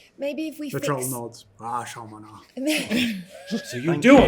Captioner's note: Troll, speaking Giant